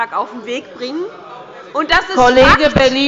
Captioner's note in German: Unruhe bei der CDU